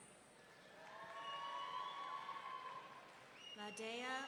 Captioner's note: audience cheering